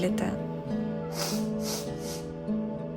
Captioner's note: sniffles